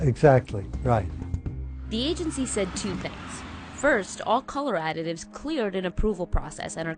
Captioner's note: voice-over